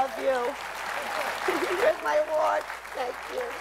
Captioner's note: applause